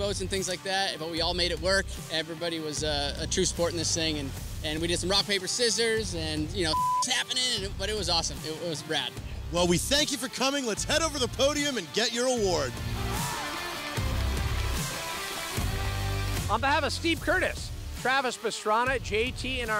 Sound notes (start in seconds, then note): 13.0 applause